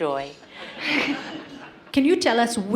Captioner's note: participants laugh